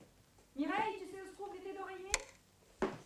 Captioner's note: speaking french